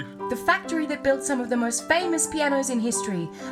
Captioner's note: none